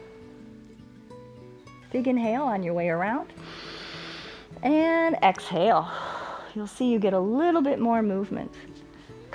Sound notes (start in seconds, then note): 3.4 inhales; 3.4 exhales